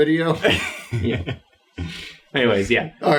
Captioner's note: laughs